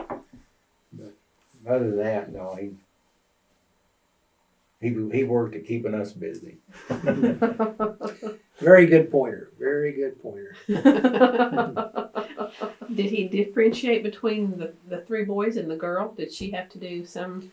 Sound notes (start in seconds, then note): 6.5 laughter